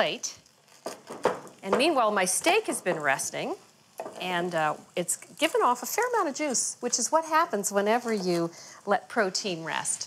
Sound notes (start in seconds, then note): 0.5 crunching potatoes